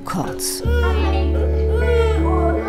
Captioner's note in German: Weinen, ruhige Musik